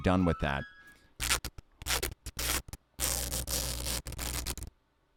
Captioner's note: peeling loudly